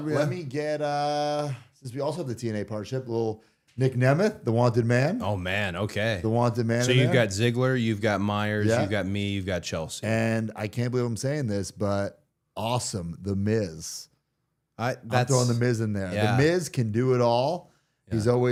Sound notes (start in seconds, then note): none